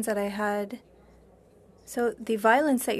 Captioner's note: speaking French